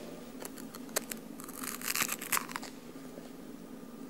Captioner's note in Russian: грызёт хлеб